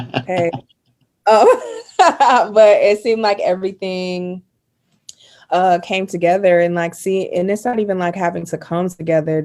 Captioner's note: laughing